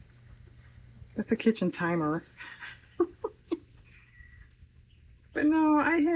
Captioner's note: laughs